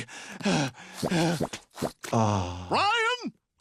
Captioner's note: Stewie breathing heavily